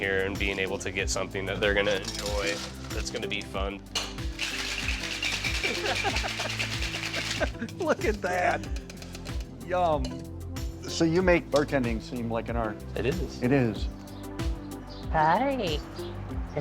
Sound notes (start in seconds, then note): 4.0 rattling